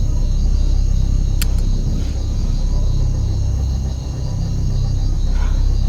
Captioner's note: lighter flicks shut